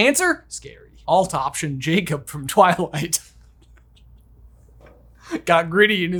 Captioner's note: chuckles